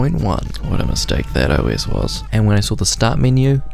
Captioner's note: man screaming, fire crackles